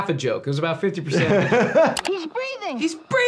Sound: laughing

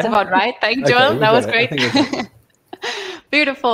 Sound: chuckles

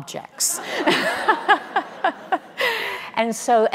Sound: laughing

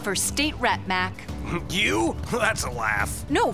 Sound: scoffs

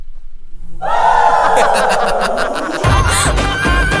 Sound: Tej laughs

